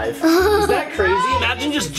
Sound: laughing

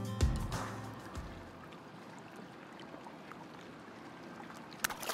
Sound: water burbling

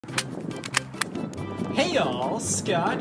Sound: stapler click

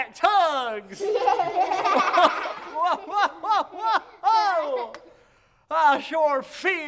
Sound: laughter

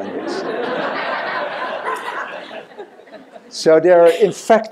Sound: laughter

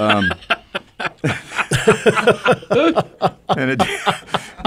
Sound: group laughs

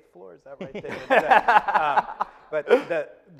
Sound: laughing

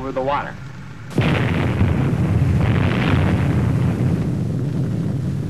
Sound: explosion

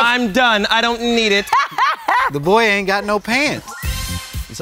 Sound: laugh

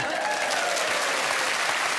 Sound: applause

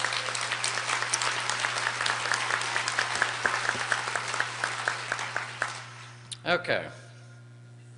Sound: applause

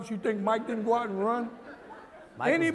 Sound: laughter

